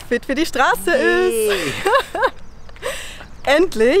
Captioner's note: laughter